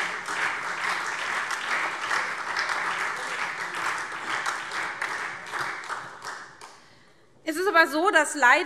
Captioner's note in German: Beifall SPD und Freie Demokraten